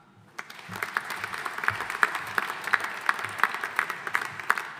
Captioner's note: audience applauding